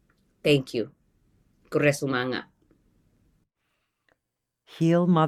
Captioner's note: speaks foreign language